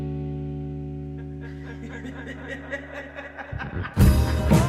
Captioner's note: laughter